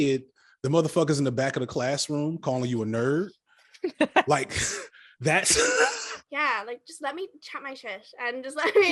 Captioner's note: laughter